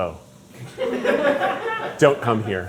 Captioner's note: crew laughing